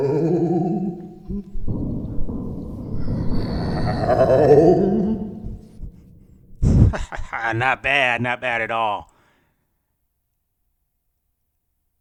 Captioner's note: ghost sounds